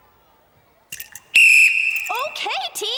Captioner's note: whistle